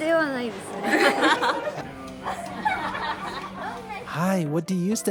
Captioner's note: laughter